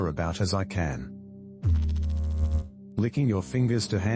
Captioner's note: electrical noise